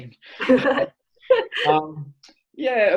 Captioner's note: laughing